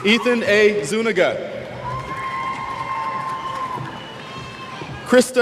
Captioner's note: cheers